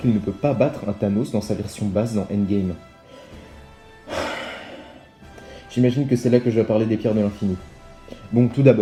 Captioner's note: sighs